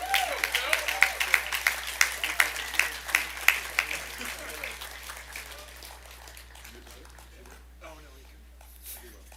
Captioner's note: applause